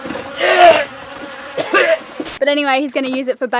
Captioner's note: splash; wretching